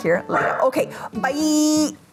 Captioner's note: dog barking